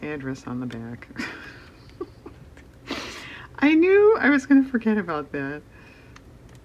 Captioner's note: laughs